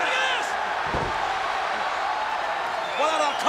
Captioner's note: body thuds